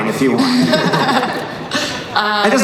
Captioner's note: laughing